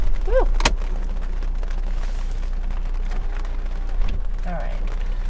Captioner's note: rain splattering